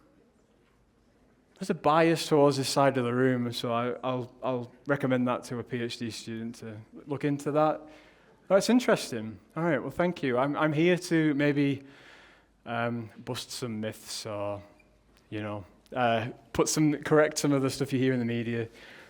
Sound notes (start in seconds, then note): none